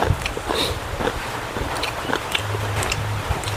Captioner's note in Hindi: नाक से की जाने वाली आवाज़